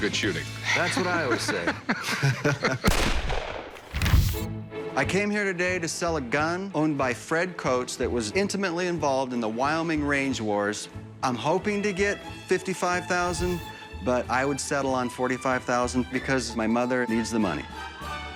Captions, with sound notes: [laughs] That's what I always say. [gunshot sound effect] I came here today to sell a gun owned by Fred Coates that was intimately involved in the Wyoming Range Wars. I'm hoping to get $55,000, but I would settle on $45,000 because my mother needs the money.